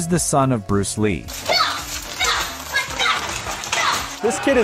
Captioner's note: kid chanting